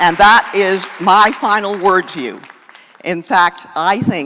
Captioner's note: applause